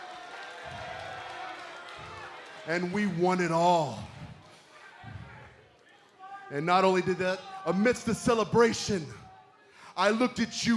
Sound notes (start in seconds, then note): 1.8 cheers & boos